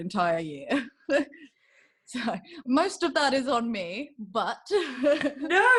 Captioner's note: giggles